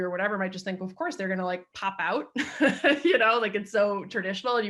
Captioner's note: laughs